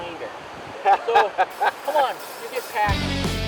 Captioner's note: laughing